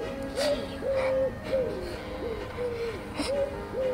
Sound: crying

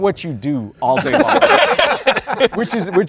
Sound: all laughing

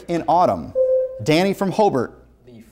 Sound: buzzer sounds

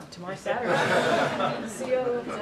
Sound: laughter

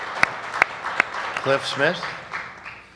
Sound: applause

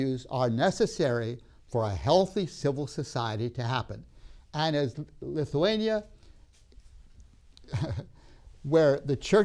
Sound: laughs

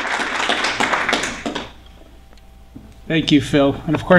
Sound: applause

